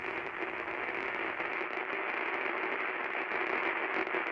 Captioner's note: television crackling